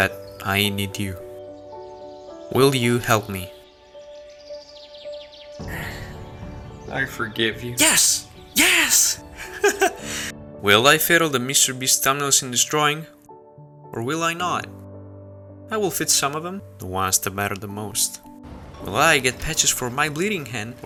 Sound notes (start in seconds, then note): 5.6 sighs; 9.0 chuckles